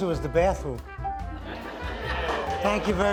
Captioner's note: audience laughing